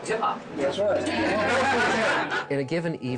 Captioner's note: group laughing